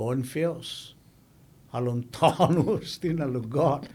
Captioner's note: laughing